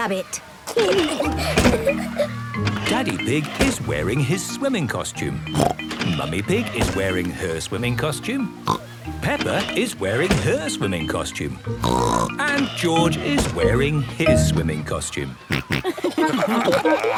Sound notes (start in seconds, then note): 0.6 giggling; 5.2 snorts; 11.8 snorts; 15.4 snorting, giggling